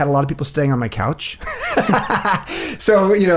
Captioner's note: both men laugh